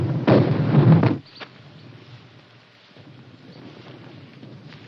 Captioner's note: birds chirping, artillery exploding in distance